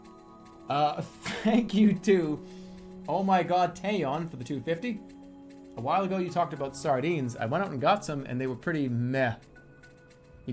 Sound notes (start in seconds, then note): 1.1 chuckles